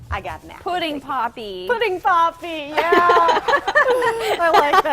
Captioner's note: laughter